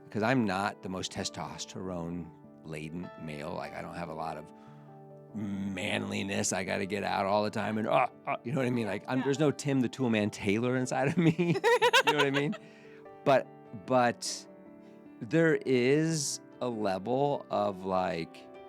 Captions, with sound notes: Because I'm not the most test-tossed, her own laden male. I don't have a lot of manliness I got to get out all the time, and, you know what I mean? There's no Tim the Tool Man Taylor inside of me. (laughing) You know what I mean? But there is a level of, like,